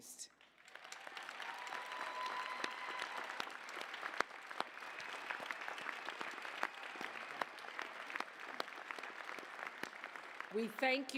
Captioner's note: applause, cheers